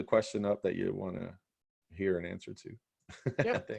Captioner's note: chuckles